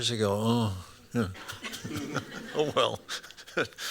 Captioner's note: laughter